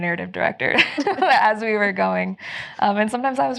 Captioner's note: laughing